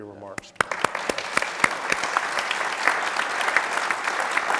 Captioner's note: audience applauding